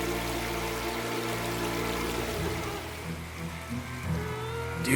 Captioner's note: female crying